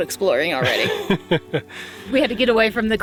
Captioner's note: laughing